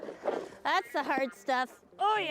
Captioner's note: shovel grating